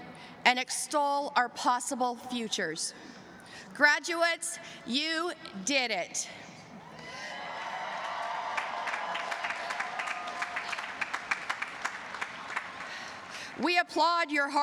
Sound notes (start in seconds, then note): 7.2 cheers and applause